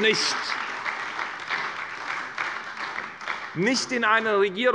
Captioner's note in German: Beifall bei der SPD